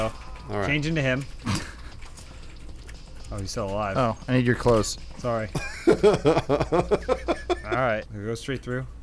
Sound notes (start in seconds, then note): 5.5 laughing